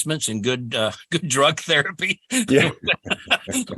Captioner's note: laughing